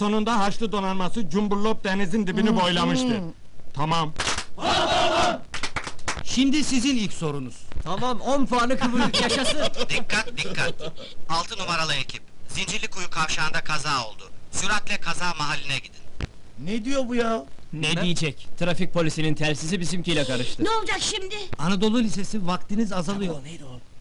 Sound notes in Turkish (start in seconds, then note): 4.0 hep bi̇rli̇kte bağirirlar; 9.6 telsizden